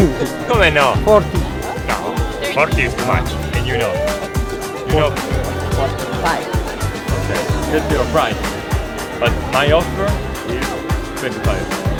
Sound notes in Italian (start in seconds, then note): 1.2 Inglese